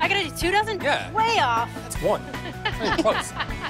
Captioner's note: laughs